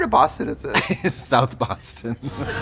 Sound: laughing

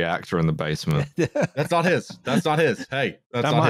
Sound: laughs

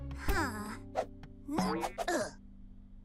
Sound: grunting

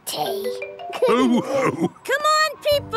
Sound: all laughing

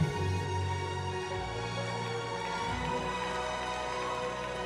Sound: cheering

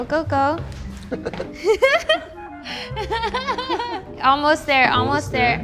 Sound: laugh

